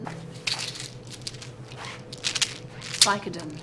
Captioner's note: pills rattling